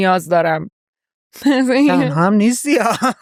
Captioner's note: laughs